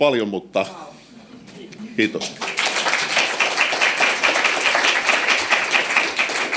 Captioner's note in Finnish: aplodeja